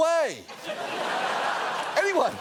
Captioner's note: studio audience laughing